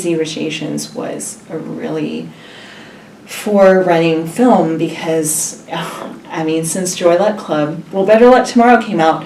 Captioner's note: sigh